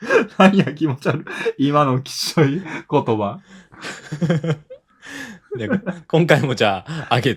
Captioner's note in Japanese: 笑い